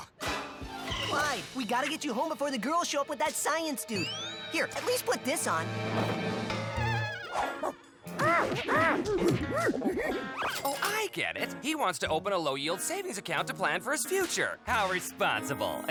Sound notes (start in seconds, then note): 6.5 clyde screeches